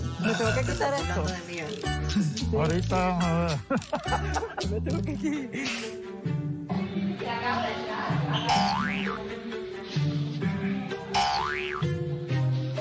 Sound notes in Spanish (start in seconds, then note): 3.6 risas